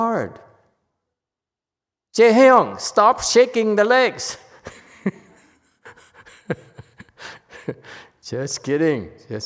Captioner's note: laughs